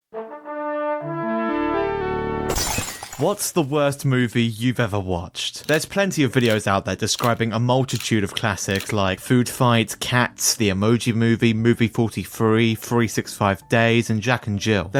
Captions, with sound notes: (smash) What’s the worst movie you’ve ever watched? There’s plenty of videos out there describing a multitude of classics like Foodfight, Cats, The Emoji Movie, Movie 43, 365 Days and Jack and Jill.